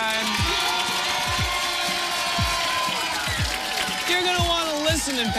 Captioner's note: cheers and applause